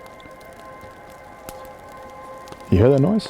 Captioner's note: fire crackling; gentle quiet music